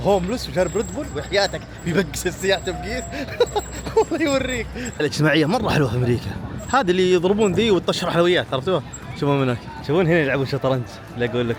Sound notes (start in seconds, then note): 2.7 laughs